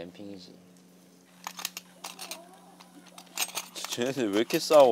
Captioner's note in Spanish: Un débil sonido de lucha